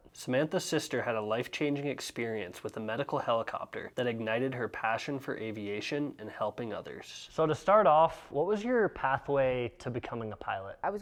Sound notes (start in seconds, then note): none